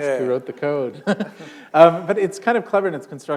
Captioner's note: chuckle